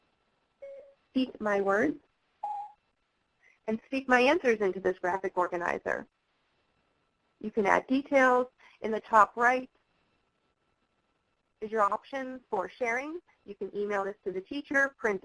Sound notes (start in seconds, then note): 2.4 beep; 2.4 higher pitched beep